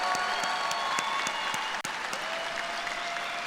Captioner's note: cheers and applause